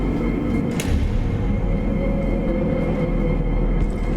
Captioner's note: engranaje clanks